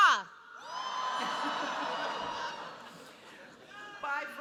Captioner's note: cheering